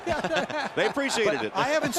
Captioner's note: laughter